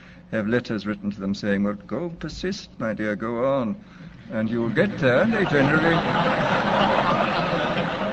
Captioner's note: laughter